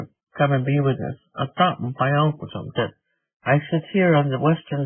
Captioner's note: speaking in Native language